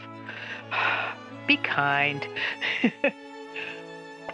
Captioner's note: sigh; chuckle